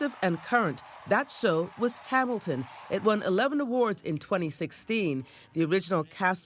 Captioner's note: cheering and applause